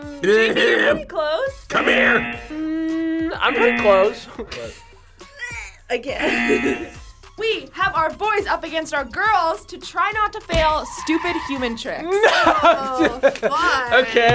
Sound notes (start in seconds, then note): 0.1 laughs; 4.2 buzzer; 6.2 buzzer; 6.2 laughs; 12.0 laughs